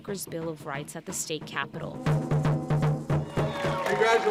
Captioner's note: drums playing; crowd cheering and clapping